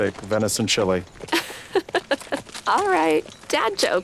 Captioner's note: laughs